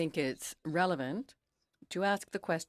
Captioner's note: speaking in French